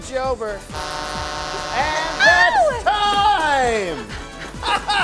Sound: horn

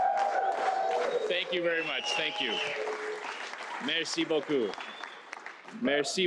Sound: chanting

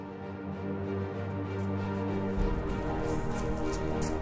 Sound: footsteps

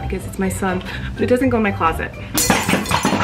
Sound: glass breaking

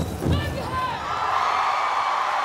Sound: drumming and chanting; cheering; boy yells

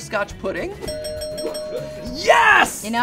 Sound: bell ringing

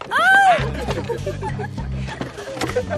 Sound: laughing

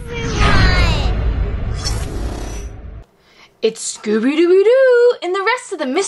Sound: electric zapping

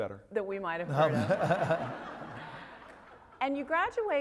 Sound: laugh

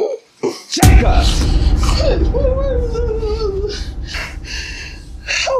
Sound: indistinct chatter

